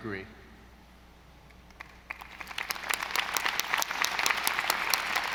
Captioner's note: audience applauding